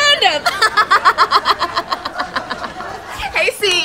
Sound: laughs

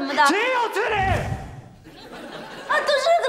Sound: yell

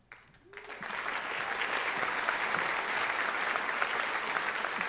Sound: audience applauds

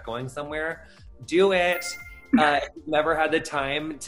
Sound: ding

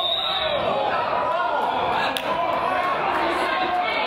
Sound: whistle blows

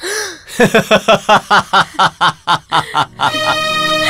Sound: Ranjan laughing

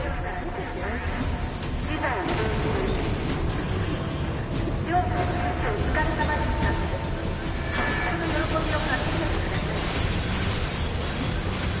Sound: announcements continue

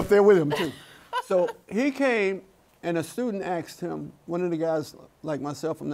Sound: laughs

